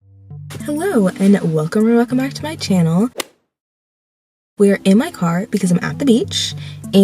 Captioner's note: golf hit sound effect